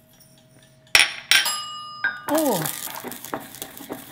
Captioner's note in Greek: χτυπάει το κουδούνι